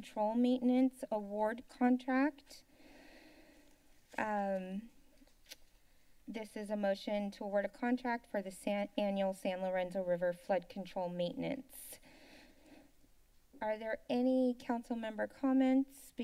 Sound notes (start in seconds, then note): 2.7 inhales; 12.0 inhales